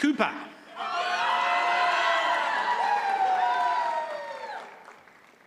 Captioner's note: audience cheers and applauds